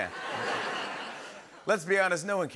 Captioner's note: laughter